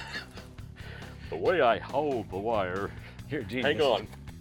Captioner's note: laughs; in a deep voice; chuckles